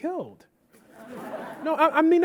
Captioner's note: audience laughing